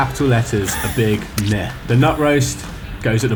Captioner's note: splat sound